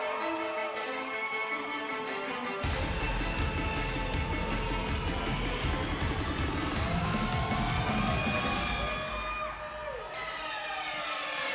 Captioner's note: crowd cheering